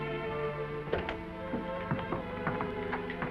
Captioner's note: door opens